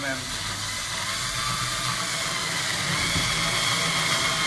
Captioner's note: drill whirring